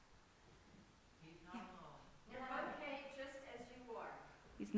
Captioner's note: shouted answers from congregation